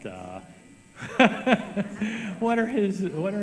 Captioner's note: laughs